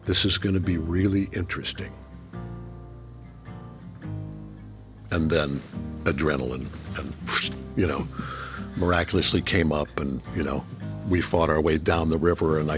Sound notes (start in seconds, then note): 8.1 chuckling